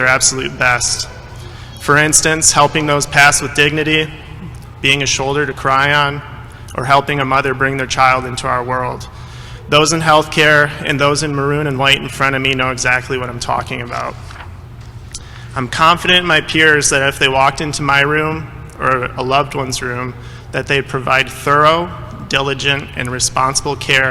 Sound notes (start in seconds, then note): none